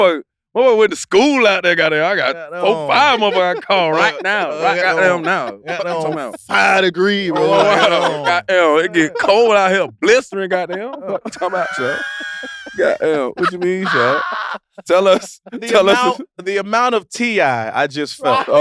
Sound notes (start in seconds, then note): 13.4 Jay and Ahrii laugh